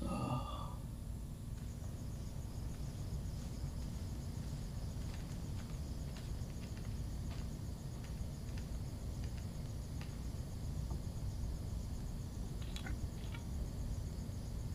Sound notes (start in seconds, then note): 0.0 Bolo groaning; 1.8 crickets chirping